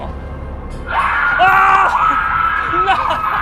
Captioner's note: canned shrieking; startled shout